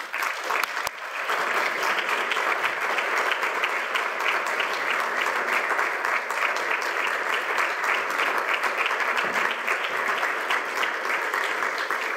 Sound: applause

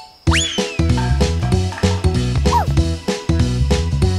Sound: Pocoyo woofs; stick falls on the floor

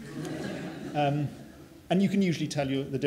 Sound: laughter

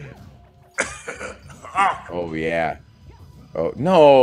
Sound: laugh

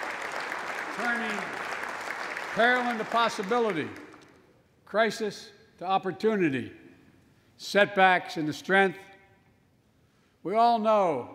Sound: applause

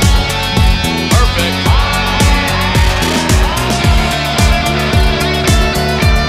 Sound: He-Man shouting distortedly

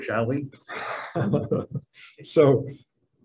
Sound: all laughing

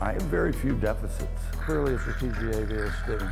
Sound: suctioning

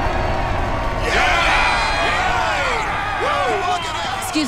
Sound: cheering

